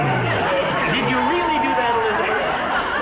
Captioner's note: audience laughs uproariously; clears throat